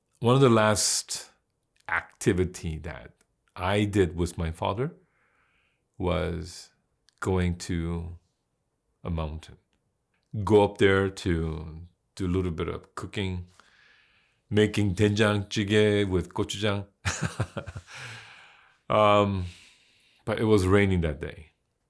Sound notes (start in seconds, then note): 14.9 foreign language; 17.1 laughs